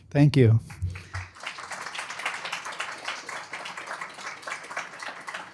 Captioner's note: applause